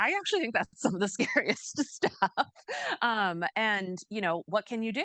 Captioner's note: chuckles